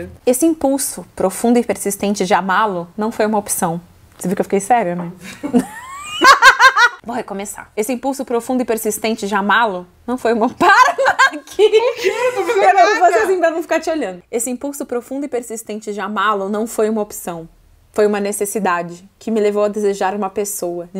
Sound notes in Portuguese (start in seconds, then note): 5.2 risos